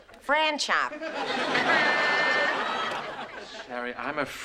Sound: laughs

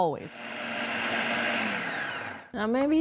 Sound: food processor whirring

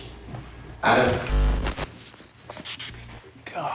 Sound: static

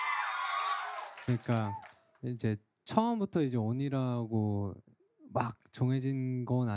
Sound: cheering; speaking in foreign language

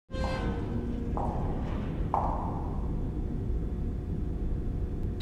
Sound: heels walking

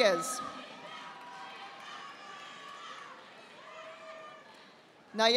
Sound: audience applauding

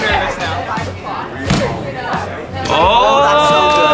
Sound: thump

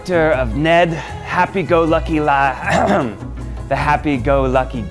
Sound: clears throat

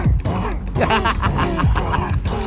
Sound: laughs teabaggingly

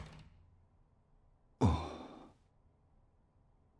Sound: sighs

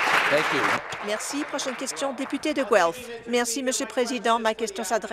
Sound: applause

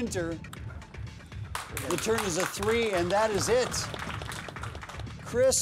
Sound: applause

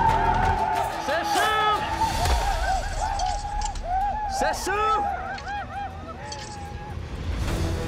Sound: speaks blackfeet

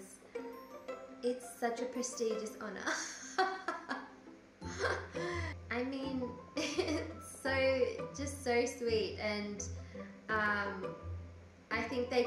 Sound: laughs

